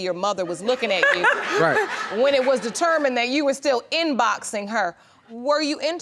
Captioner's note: laughing